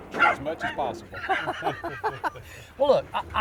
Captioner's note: both laugh